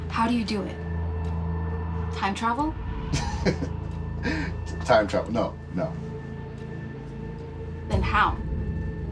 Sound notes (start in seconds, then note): 5.2 laughing